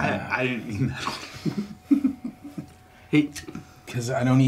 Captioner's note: Dave laughing